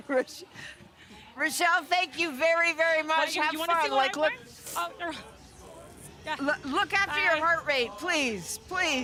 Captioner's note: laughter